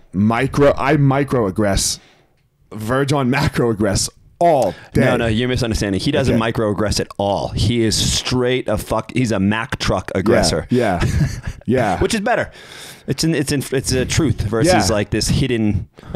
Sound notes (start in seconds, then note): 10.6 chuckles